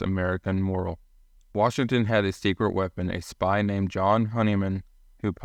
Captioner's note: voiceover